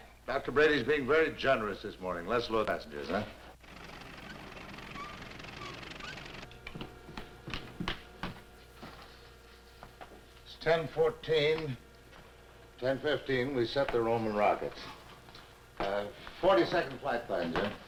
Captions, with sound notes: Mac, Dr. Brady's being very generous this morning. Let's load the passengers, huh? (machinery rattling) (footsteps pattering) It's 10:14, 10:15, we set the Roman rockets. 40-second flight plan, Jim.